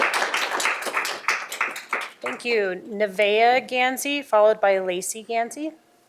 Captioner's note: applause